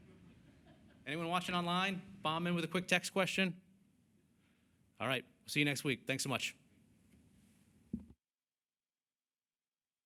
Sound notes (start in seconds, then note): 0.0 laughter